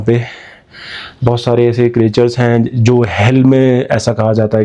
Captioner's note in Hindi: अचानक ज़ोर से सांस लेने की आवाज़